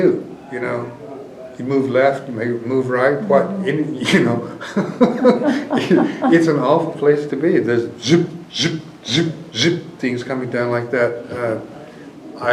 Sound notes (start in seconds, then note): 3.0 laughs